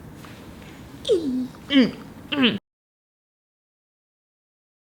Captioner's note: grunting